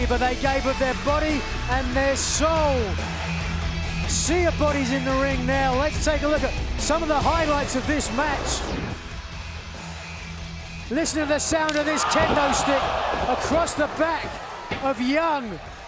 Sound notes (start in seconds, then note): 4.4 energetic rock music; 9.5 energetic rock music; 11.6 kendo stick slaps